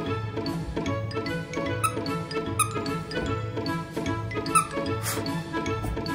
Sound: toy squeaks

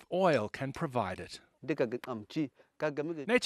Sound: non-english speech

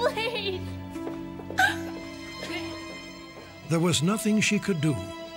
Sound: cries

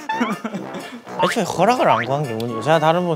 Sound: murmuring

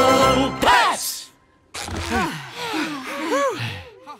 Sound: panting

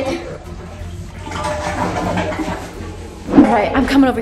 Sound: toilet flushing

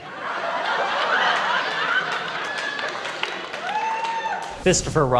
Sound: laughter

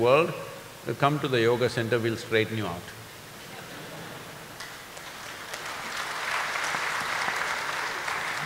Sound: laughter/Applause

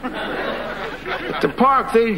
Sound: audience laughing

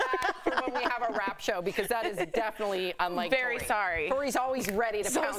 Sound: laughter

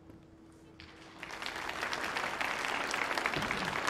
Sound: audience applauding

